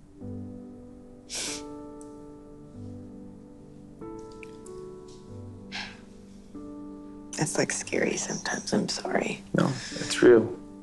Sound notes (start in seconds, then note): 0.1 soft music; 5.7 sighs